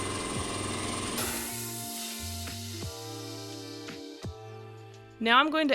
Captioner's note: hiss of air release